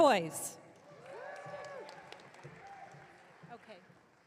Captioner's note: audience cheering